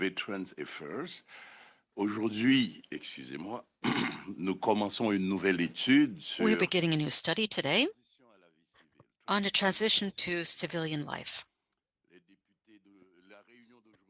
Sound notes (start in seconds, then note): 8.0 speaking French